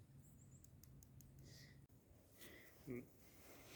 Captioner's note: laughs